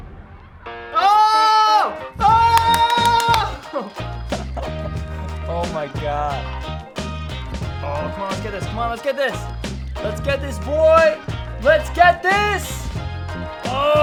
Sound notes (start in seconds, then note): 2.3 cheers; 2.5 claps; 13.8 groans